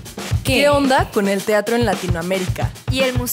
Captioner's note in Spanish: Varias voces